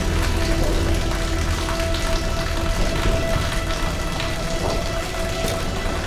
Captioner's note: moves to ominous music; water pattering